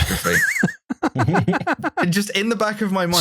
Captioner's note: laughter